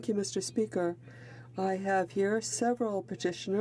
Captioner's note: speaking French